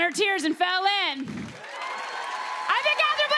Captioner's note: cheers and applause